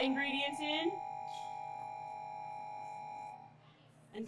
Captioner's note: mixer whirring